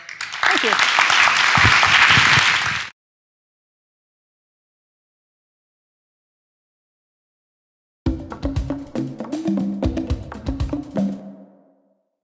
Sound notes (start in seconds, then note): 1.6 audience applause; 8.0 cheerful music